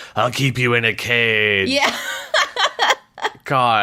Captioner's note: laughs